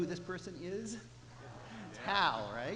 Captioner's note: audience responds